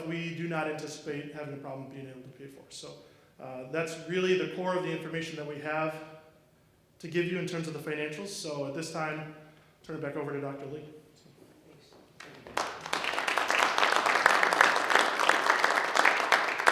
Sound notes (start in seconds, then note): 12.1 audience clapping